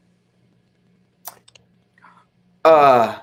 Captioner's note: lips smooching